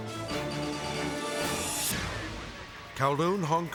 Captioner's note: air whooshes